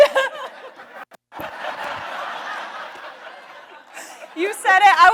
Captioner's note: audience laughs